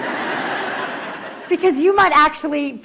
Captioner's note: laughter